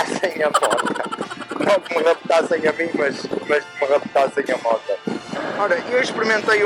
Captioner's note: laughs